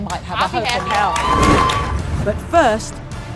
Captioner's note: audience cheers and applauds